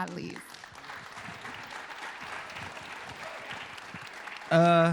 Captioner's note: applause